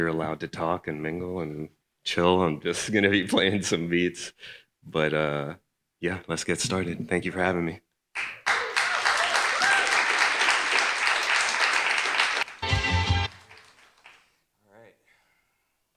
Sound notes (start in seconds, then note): 8.2 audience applauding